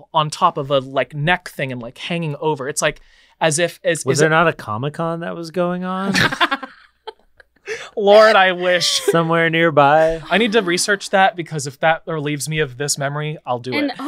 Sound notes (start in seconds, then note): 7.6 laughs